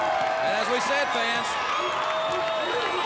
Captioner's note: crowd chatter